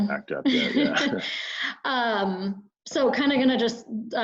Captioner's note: laughing